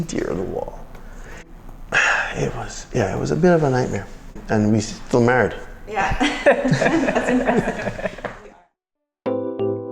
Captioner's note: laughter